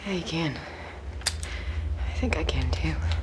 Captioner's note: camera clicks